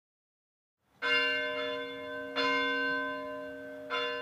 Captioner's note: bell ringing